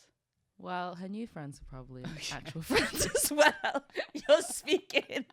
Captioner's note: laughing